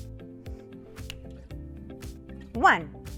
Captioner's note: fingers snapping